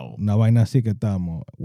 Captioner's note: speaking Spanish